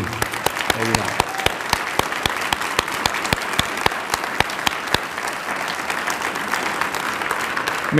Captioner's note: applause